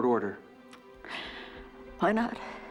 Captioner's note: sighs